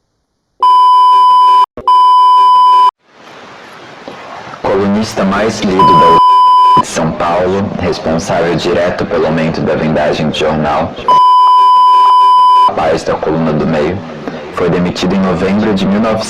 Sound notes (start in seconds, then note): 5.8 beep